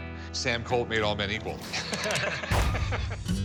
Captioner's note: both laughing